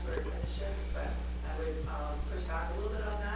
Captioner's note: faintly speaking